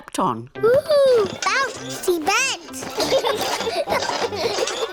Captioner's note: children laugh